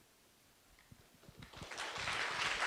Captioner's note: audience claps